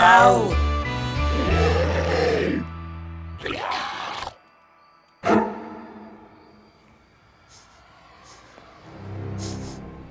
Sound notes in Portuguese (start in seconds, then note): 1.3 grunhidos; 4.4 música de suspense